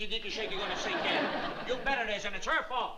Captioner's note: laughter